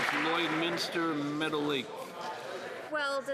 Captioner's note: some Applause